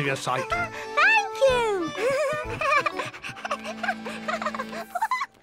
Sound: giggles

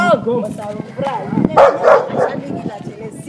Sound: dog Bark

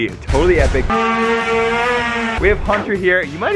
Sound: drone buzzing

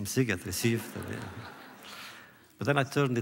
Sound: laughter

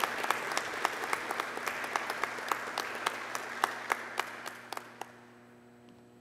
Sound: applause

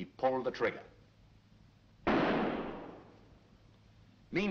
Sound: gunshot

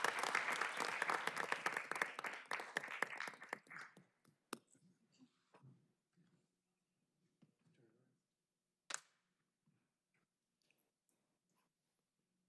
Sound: applause

